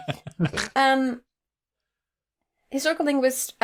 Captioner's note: laughter